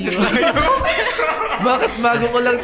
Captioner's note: laughs